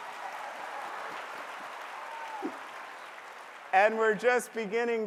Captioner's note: applause